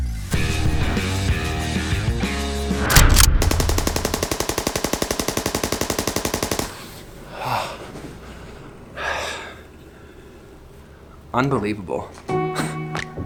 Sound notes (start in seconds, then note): 0.2 guitar riff; 2.9 paintball gun fires; 7.1 sighs; 12.2 casual music plays